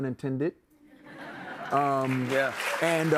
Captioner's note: laughter